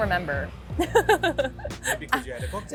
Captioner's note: laughing